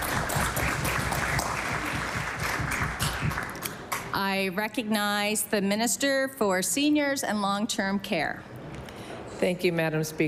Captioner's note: applause